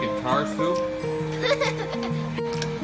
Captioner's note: loud laugh